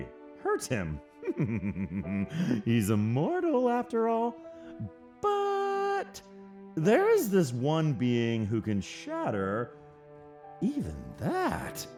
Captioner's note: chuckles